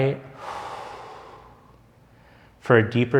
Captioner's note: sighs